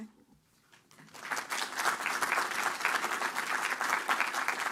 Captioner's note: applause